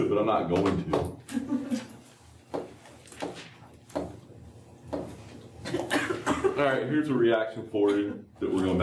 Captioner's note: laughter